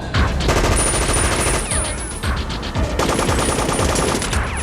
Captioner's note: machine gun firing